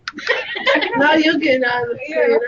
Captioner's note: laughter